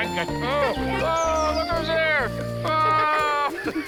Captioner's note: laughing continues